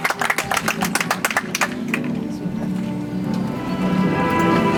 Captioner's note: audience applauds